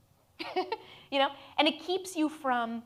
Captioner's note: laughs